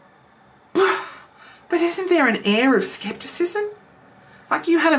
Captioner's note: sighs